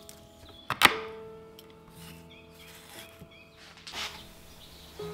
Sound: chopping

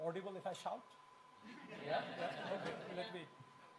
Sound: laughing

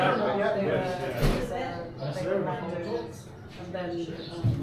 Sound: people chattering

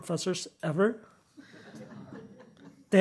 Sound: chuckling

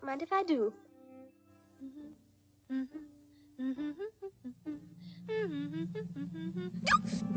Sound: humming

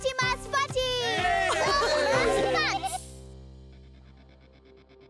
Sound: cheering

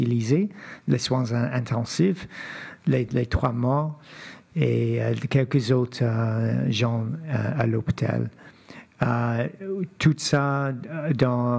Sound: speaking French

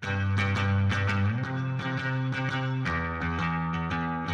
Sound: none

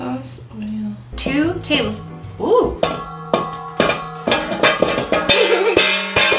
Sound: pan clangs; laughs

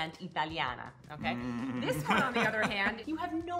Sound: laughing

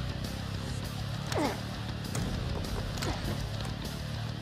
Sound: grunting

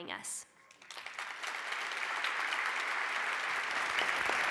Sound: applause

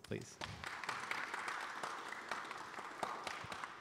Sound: audience applauds

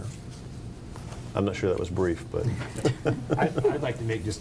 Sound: laughs

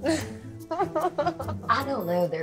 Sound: laughs

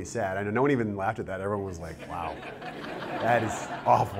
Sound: laughter

